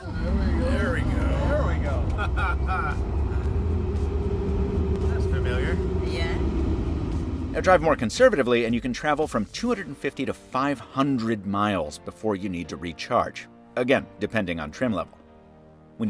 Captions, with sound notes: - Here we go - Here we go - Here we go (laughs) (Car engine roaring) (murmurs) - And drive more conservatively, and you can travel from 250 to 500 miles before you need to recharge again, depending on trim level.